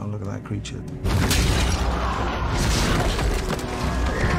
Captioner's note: crowd gasping